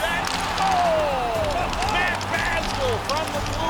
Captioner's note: audience cheering